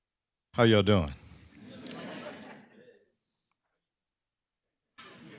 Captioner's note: laughter